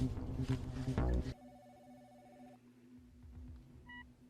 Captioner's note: phone ringing; phone switching off